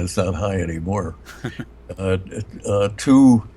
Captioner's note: chuckles